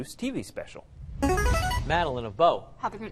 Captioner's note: chiming